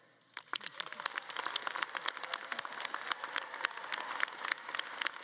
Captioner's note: audience claps and cheers